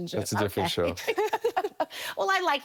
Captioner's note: laughing